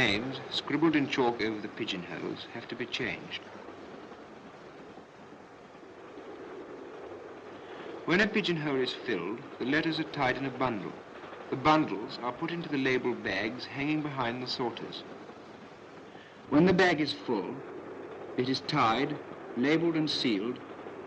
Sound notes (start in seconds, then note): none